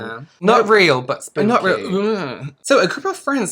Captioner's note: burp?